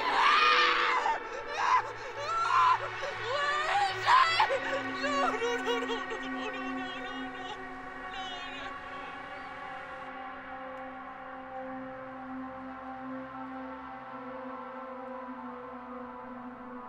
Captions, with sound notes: Get out! (Brigit sobbing) Where is he? No, no, no, no, no! No, no!